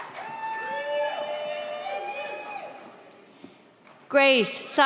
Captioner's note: audience cheers